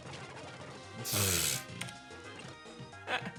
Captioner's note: chuckles